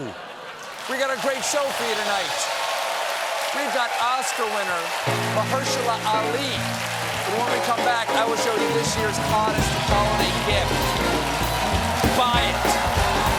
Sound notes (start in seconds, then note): 1.4 cheers and applause